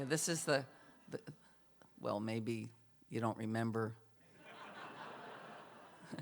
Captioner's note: laughter